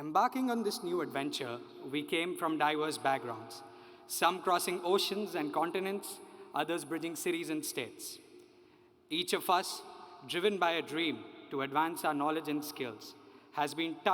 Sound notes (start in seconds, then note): none